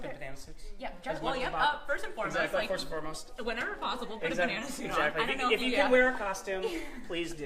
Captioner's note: laughter